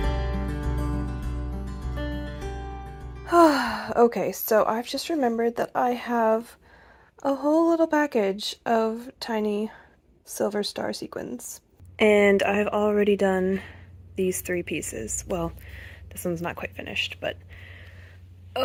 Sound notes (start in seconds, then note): 3.3 sigh